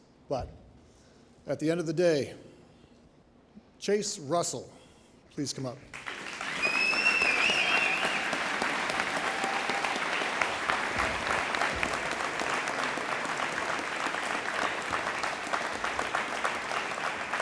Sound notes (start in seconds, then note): 6.6 audience applauding